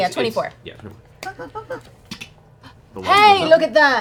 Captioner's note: click